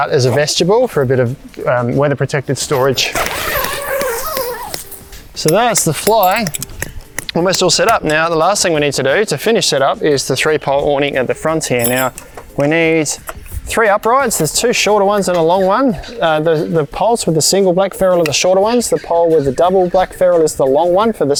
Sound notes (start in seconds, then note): 2.6 zipping; 4.7 tapping